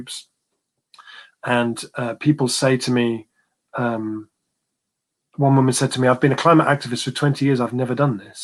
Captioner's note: erm